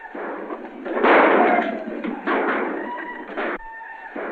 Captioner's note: yelling and gunshots